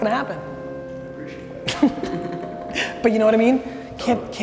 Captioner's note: group laughter